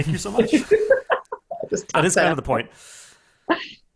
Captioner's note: laughs